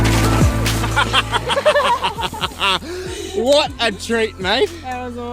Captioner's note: laughs